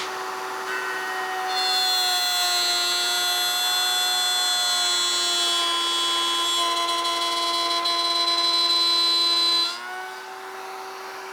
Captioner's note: buzzing